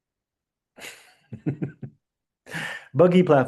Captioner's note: chuckles